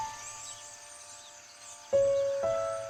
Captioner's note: ominous Piano Music Plays; birds Chirping Continues